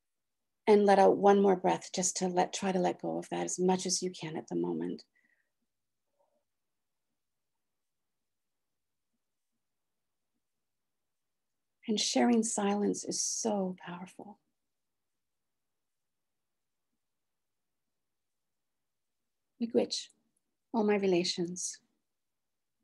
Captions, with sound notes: And let out one more breath just to try to let go of that as much as you can at the moment. [releases breath slowly] And sharing silence is so powerful. Miigwetch, all my relations.